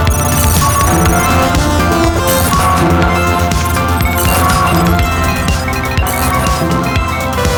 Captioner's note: video game beeping; intense music